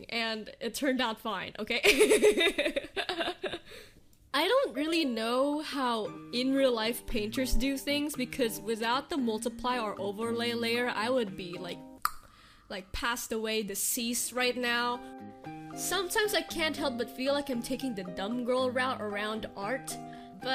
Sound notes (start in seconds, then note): 1.9 laughs; 12.0 clicks tongue